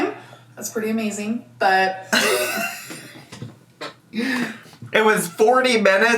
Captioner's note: laughs